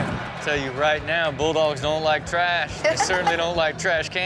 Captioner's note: laughs